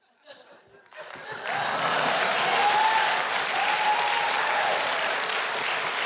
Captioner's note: applause and cheering